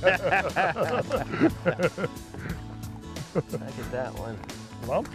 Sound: laughter

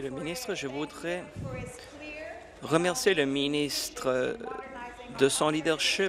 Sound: speaking in French; speaking in English

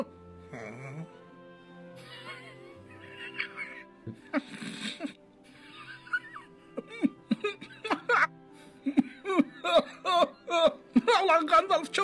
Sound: laught to each other

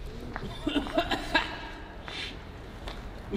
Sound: rough coughing

